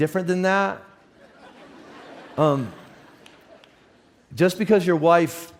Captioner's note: audience laughs